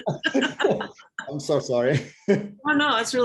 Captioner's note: laughing